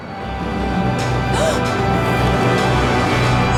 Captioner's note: gasps